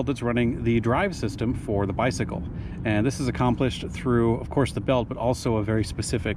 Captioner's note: none